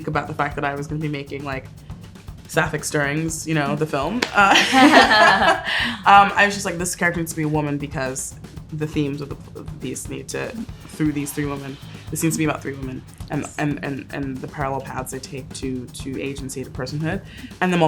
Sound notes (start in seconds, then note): 4.2 hand smacks; 4.4 all laugh